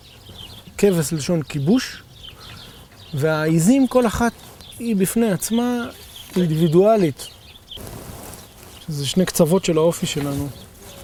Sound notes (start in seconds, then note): 2.2 in Hebrew